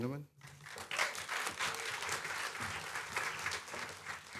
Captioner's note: clapping